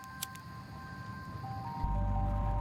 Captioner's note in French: bruit de briquet